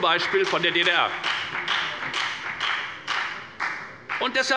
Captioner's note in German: Beifall bei der FDP